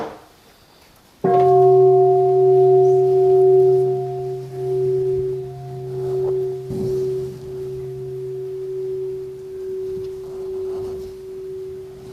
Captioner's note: the sound of the bell